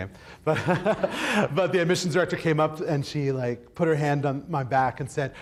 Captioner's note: laughs